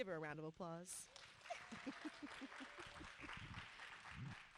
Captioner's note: audience applauding